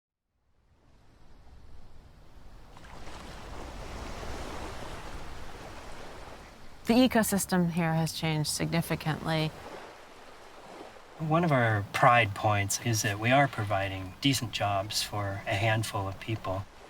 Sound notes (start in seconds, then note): 2.6 waves lapping